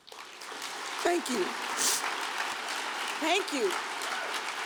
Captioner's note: audience applauds; sniffs